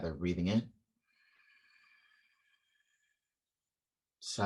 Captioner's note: inhale